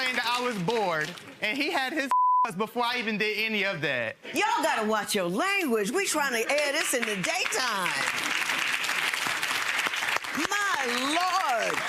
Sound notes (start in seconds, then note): 2.1 beep; 6.7 crowd applause